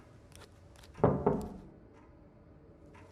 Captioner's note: knocking